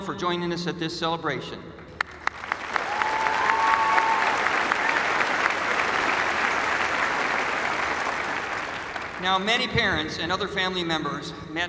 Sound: applause

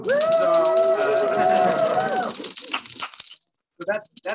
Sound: cheering

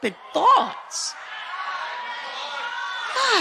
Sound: congregation chatter

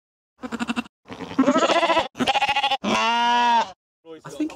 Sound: sheep baa-ing

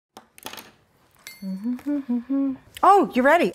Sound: humming

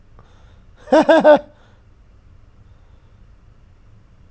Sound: laughing

